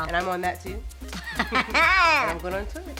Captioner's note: laughs